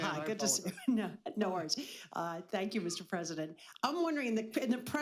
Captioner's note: laughs